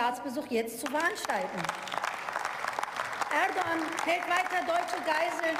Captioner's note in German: Beifall